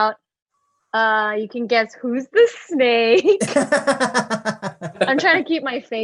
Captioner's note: laughs